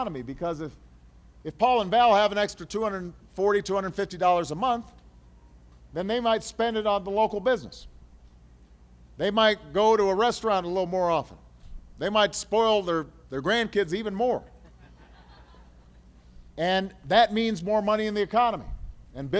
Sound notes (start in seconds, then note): 14.5 laughter